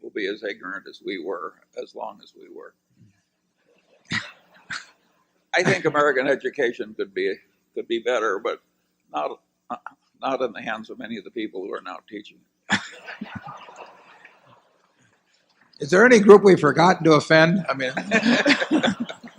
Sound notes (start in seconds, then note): 5.6 laughter; 12.7 laughter